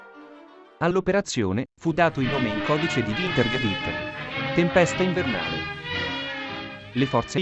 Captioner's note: winter storm